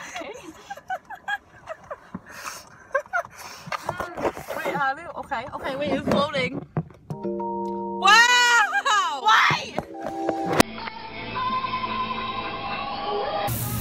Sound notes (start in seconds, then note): 0.0 continued laughter; 8.4 tears